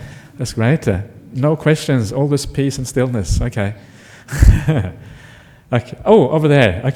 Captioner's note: laugh